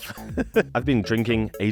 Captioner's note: light laughter